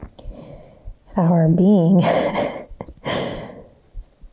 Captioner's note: chuckles